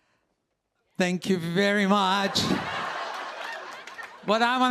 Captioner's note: laughter